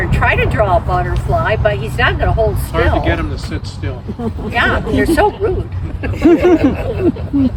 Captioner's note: laughter